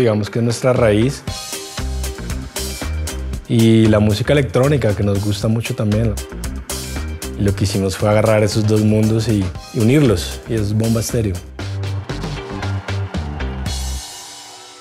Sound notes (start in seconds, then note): 11.5 crowd cheering